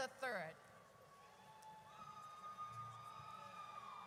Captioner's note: audience cheers